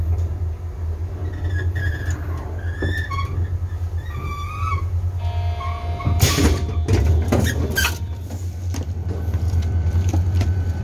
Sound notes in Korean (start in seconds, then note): 5.8 출입문 열림